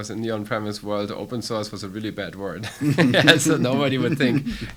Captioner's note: laughs